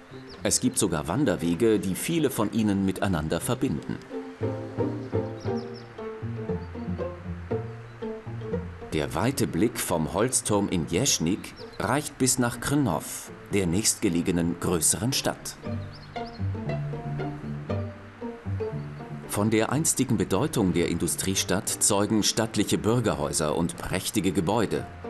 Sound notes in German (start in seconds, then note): 5.2 Vogelgezwitscher